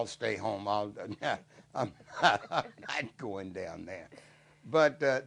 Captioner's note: laughs